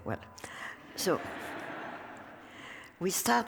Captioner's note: laughter